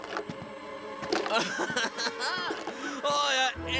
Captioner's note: laughs